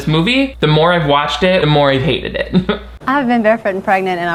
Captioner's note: chuckles